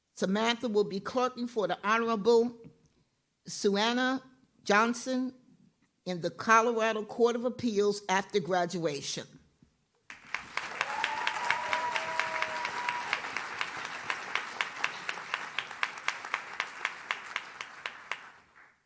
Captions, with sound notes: Samantha will be clerking for the Honorable Sueanna Johnson in the Colorado Court of Appeals after graduation. (audience cheers)